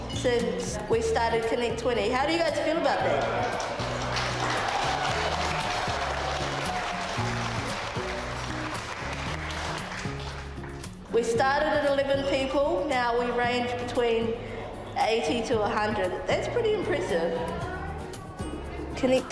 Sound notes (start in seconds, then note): 3.4 all applaud; 5.9 people cheer